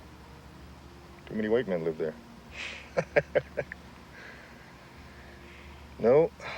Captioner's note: laughs